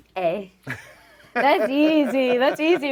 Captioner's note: laughing